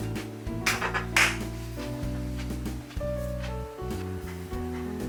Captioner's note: everyone applauds for the delicious food